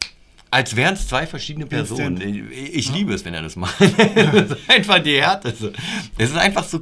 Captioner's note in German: Lachen